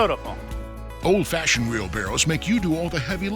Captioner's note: voiceover